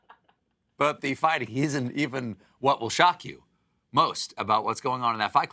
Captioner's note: laughter